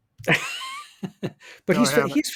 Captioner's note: group laughing